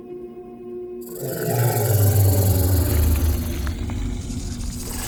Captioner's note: snake growls